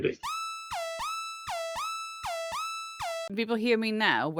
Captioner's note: alarm sounds